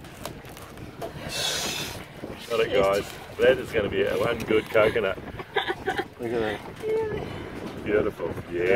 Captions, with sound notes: Got it guys. That is going to be one good coconut. [LAUGHS] Look at that. Beautiful.